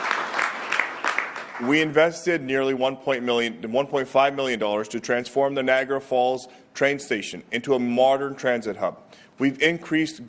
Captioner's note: applause